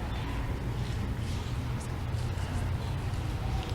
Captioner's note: none